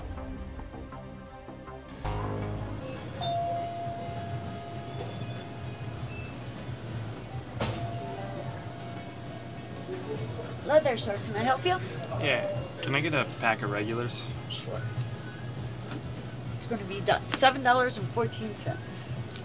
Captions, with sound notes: (Suspense music fades out) (Doorbell chimes) Hello there, sir. Can I help you? Yeah. Can I get a pack of regulars? Sure. That's going to be seven dollars and fourteen cents.